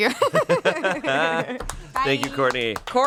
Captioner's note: everyone laughs